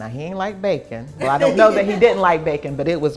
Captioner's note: laughs